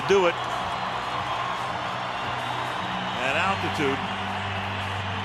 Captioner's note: cheering